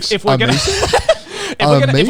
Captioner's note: everyone laughs